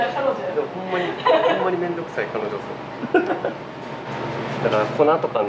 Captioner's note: laughs; laughs